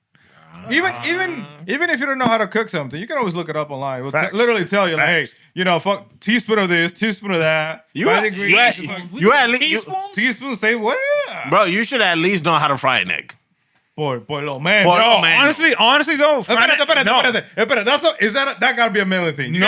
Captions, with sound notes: Even if you don't know how to cook something, you can always look it up online. Literally tell you, like, you know, fuck teaspoon of this, teaspoon of that. You had a-- You had a teaspoon? Teaspoon, say what? Bro, you should at least know how to fry an egg. Boy, boy, little man. Yo, honestly, honestly, though, fry an egg. (Non-english Speech) That's not-- that got to be a manly thing.